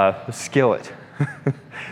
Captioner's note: laughs